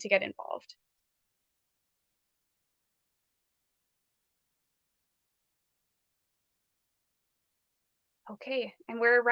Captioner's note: silence